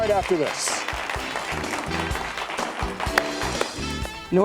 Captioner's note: applause